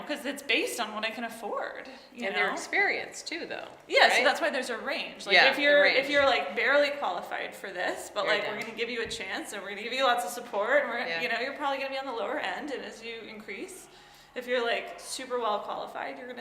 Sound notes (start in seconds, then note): none